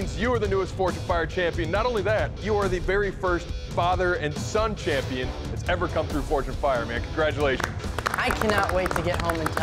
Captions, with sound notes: That means you are the newest Forged in Fire champion. Not only that, you are the very first father and son champion that's ever come through Forged in Fire, man. Congratulations. [applause] I cannot wait to get home and tell Dad.